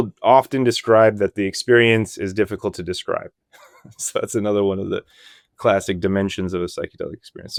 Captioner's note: laughs